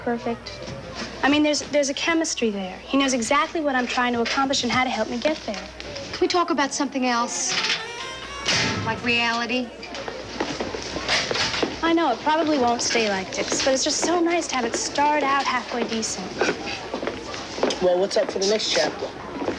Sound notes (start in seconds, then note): 8.4 bang